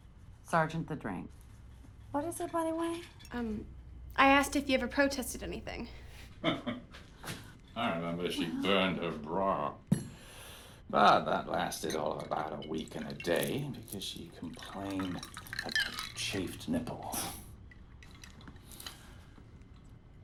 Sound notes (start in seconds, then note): 6.4 Sergeant chuckles